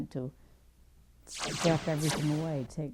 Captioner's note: zap